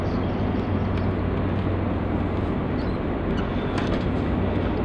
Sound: none

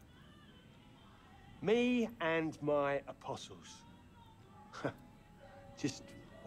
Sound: laugh

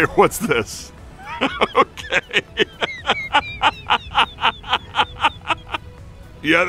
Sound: laughing

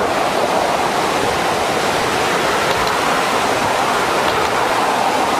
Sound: water rushing loudly

